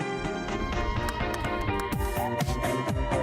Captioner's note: Reg clapping; upbeat music